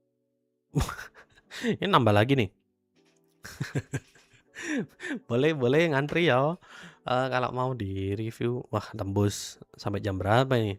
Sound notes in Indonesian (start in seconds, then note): 3.4 tertawa; 4.5 terkesiap